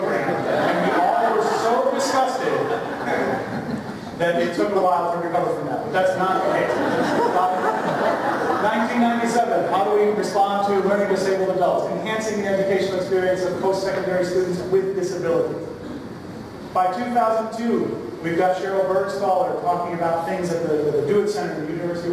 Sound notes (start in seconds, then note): 6.3 laughter